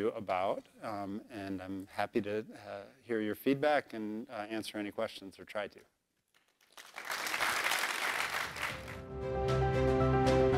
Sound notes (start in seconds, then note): 6.3 applause